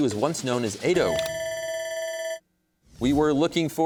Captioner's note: bell ringing